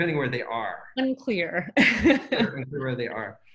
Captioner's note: laughs